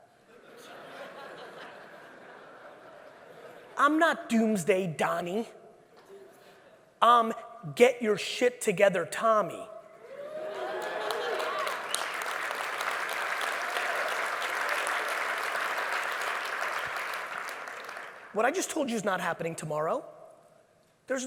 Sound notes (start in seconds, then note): 0.3 audience laughing; 10.1 audience cheers; 10.4 audience laughing; 12.3 audience claps